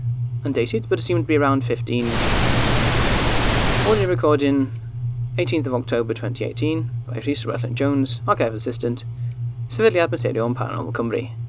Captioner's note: static